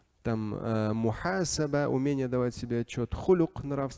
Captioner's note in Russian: Говорит на арабском